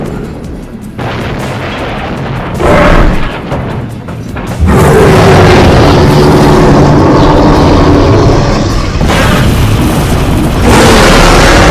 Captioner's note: train crossing bells; crashing and smashing train sounds